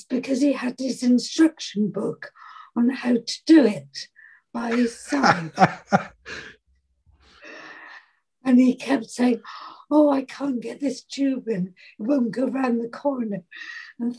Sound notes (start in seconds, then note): 4.7 laughing